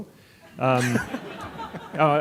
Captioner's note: audience laughing